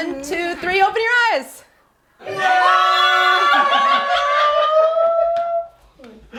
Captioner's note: excited exclamations